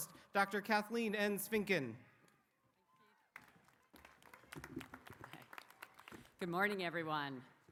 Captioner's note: applause